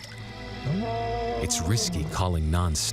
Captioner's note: lion roaring